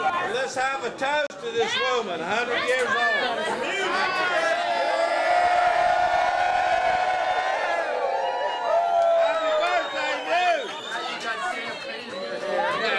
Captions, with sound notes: Let's have a toast to this woman. A hundred years old. Muze! [cheering] Happy birthday, Muze!